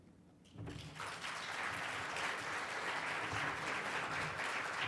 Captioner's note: audience applauds